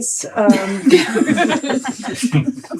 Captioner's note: all laughing